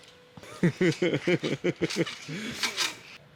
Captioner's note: laughs